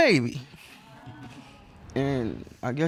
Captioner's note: audience coos